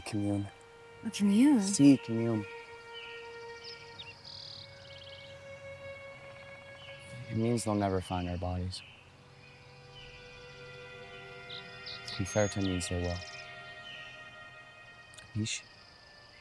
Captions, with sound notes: It'll be comunione. - A comunione? (Benny speaking in Italian). - It means they'll never find our bodies. (tense music) (Benny speaking in Italian)